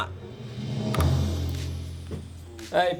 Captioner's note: tense music building; button clicks; light upbeat music